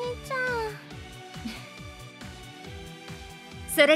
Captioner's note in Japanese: ※優しく笑う